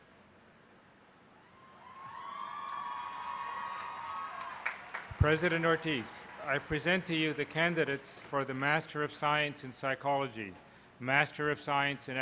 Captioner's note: applause